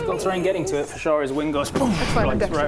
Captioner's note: boosh!